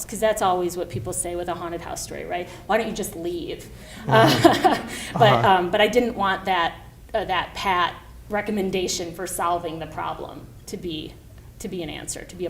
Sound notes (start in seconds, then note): 4.0 laughs